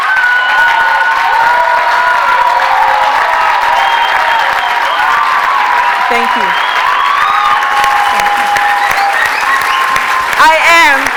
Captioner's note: cheers and Applause